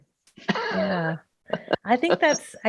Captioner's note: laughing